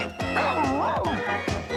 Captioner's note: ruff ruff